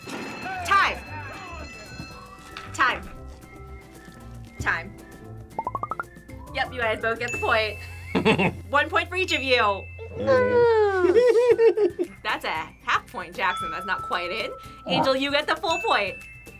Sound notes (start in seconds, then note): 8.2 laughs; 10.3 giggles